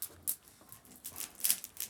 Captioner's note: crackling fire